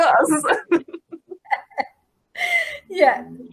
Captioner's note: laughing